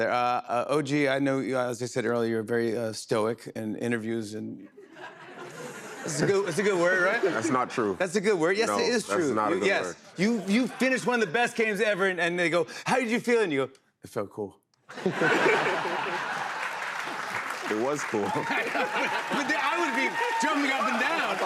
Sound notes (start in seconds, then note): 4.7 laughter; 14.9 laughter, applause